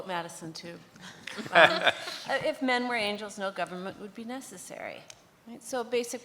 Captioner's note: laughs